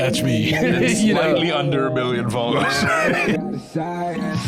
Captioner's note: laughs